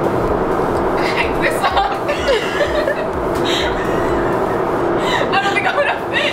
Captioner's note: laughter